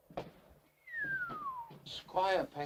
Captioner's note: Harry whistles